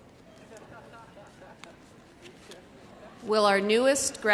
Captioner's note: men laughing